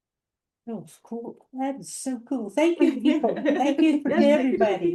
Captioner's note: laughter